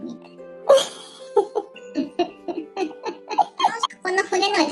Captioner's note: laughs